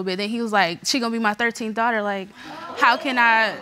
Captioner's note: crowd murmurs